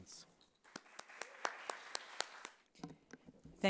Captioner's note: applause